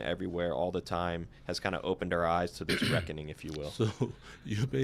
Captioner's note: clears throat